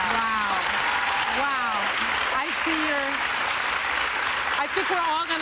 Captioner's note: cheers and applause